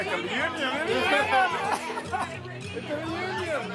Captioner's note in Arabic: الناس يتحادثون